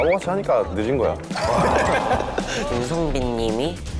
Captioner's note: laughing